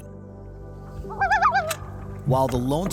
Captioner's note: loon calling